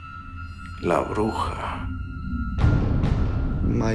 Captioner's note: speaking Spanish